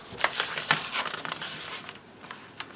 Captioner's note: paper rusting